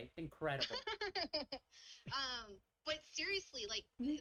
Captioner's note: laughs